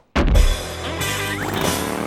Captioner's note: thud; engine rumbles; crash